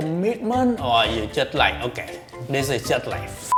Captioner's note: beep